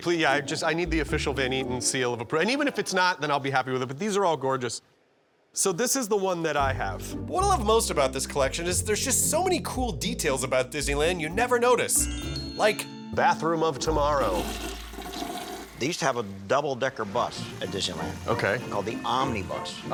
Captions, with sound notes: Will you? I need the official Van Eaton seal of... And even if it's not, then I'll be happy with it. But these are all gorgeous. So this is the one that I have. What I love most about this collection is there's just so many cool details about Disneyland -you never notice like... -Bathroom of Tomorrow. [TOILET FLUSHES] They used to have a double decker bus at Disneyland... -Okay. -...Called the Omnibus.